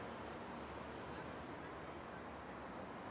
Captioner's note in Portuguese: Barulho do mar